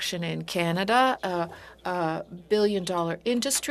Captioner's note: speaking French